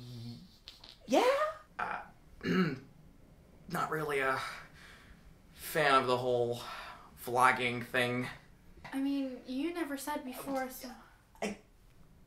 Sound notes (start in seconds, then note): 2.4 clears throat